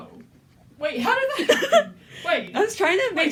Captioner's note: laughter